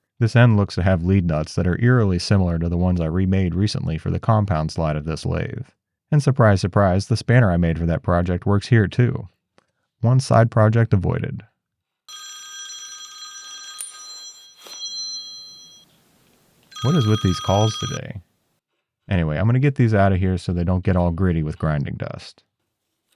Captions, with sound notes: This end looks to have lead nuts that are eerily similar to the ones I remade recently for the compound slide of this lathe, and surprise surprise, the spanner I made for that project works here too. One side project avoided. (phone ringing) What is with these calls today? Anyway, I'm gonna get these outta here so they don't get all gritty with grinding dust.